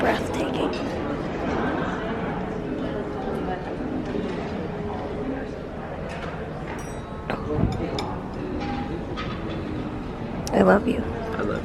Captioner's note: background chatter